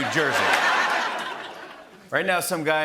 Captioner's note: laughter